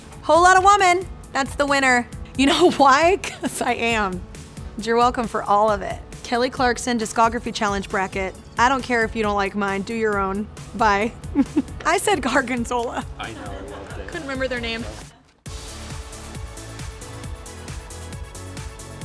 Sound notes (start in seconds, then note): 11.2 chuckling; 15.8 soft upbeat music